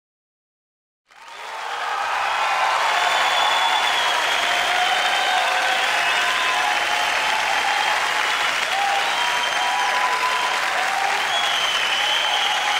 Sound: audience applauds; audience cheers

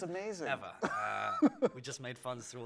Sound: laughs

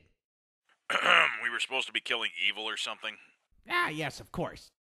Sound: coughs

